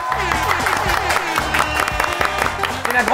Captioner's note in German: Jubel, Applaus